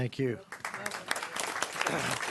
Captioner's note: clapping